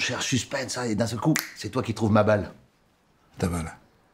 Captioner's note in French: claquement de doigts